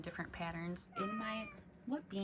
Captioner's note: meows